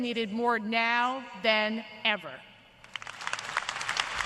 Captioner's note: applause